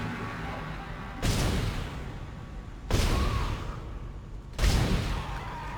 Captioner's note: gunshots